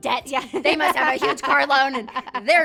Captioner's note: laughs